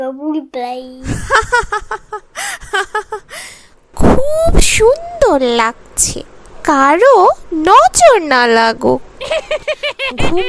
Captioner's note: sound laugh